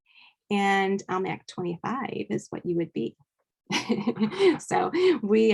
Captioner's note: laughing